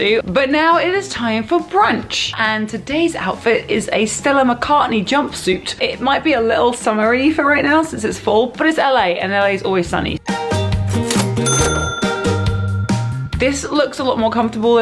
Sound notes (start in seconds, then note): 10.3 upbeat music; 11.0 cha-chinging; 12.2 upbeat music